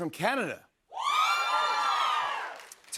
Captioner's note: cheers and applause